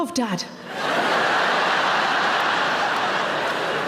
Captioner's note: audience laughs